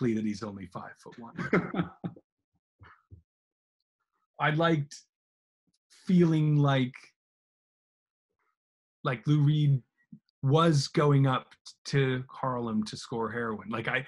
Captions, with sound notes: "that he's only five-foot-one." (laughs) I'd liked feeling like Lou Reed was going up to Harlem to score heroin.